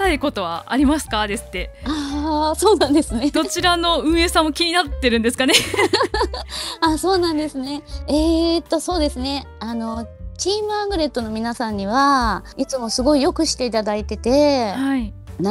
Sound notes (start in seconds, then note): 5.5 laughs